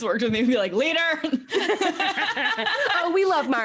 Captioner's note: both laughs